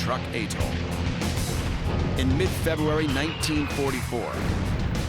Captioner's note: explosions; bombs whistling